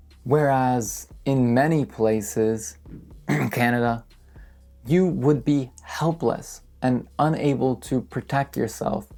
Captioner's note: cough